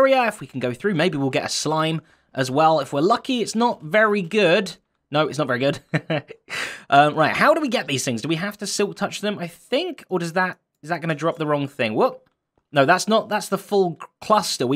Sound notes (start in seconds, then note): 5.7 chuckles